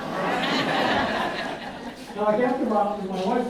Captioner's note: audience laughs